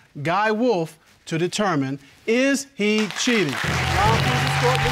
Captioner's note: audience applauds